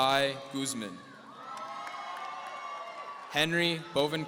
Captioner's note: audience cheering